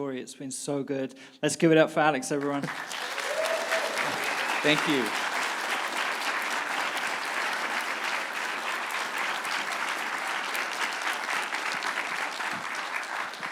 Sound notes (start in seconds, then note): 2.8 audience applauding and cheering